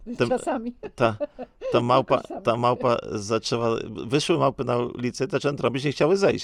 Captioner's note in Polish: śmiech